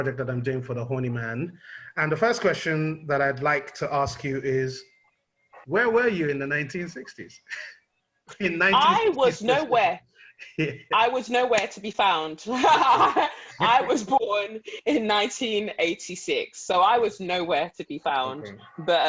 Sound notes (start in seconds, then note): 12.5 laughter